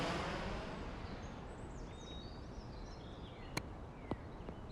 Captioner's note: jet engine roaring; birds chirping